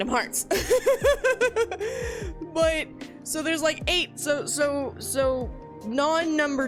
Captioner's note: laughter